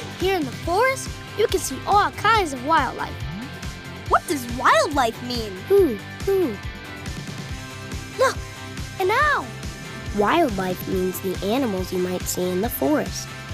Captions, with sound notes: Here in the forest, you can see all kinds of wildlife. What does wildlife mean? [hooting] Look, an owl! Wildlife means the animals you might see in the forest.